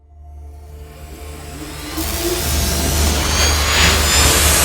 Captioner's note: logo sizzling